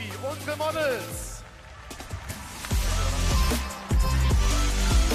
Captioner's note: applause